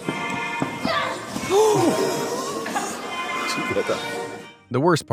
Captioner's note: ceremonial music; crowd gasps